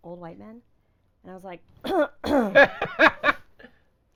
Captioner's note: coughing awkwardly; laughing